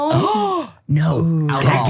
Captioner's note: gasps